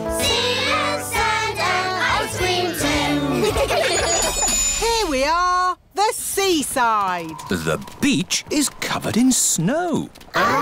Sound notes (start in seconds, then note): 3.3 laughter